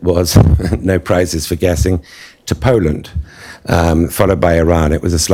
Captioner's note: chuckles